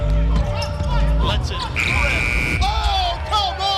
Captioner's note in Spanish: zumba el reloj